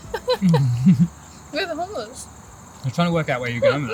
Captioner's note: laughter